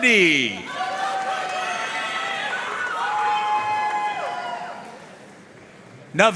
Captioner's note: audience cheering and applauding